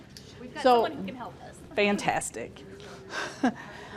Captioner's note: chuckles